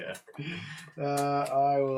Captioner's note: all laugh